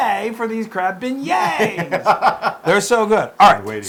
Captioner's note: laugh